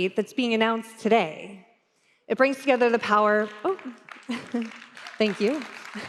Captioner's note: applause